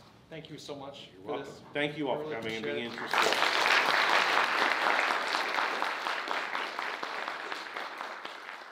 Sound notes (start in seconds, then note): 2.8 audience applauds